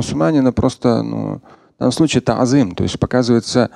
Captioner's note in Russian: говорит на арабском